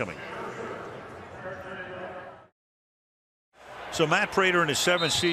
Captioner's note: pa announcement